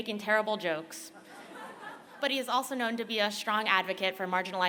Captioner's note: laughter